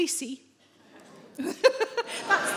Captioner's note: audience members groan